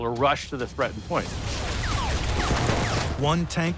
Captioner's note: bullets whizzing